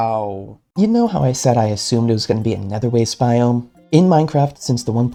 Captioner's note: voiceover